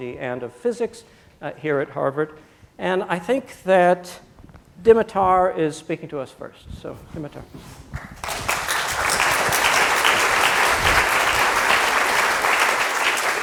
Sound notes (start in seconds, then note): 8.0 applause